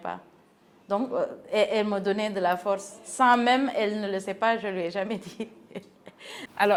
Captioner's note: giggles